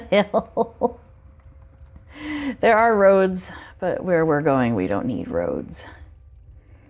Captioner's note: laughs